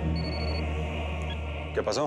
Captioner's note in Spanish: suena el celular